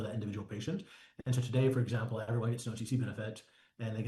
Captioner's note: audio interference